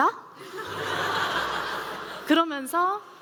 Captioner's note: laughter